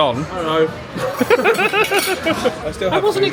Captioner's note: laughing